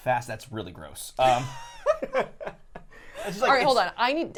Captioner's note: laughing